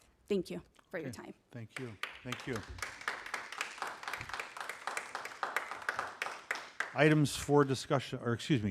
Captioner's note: applause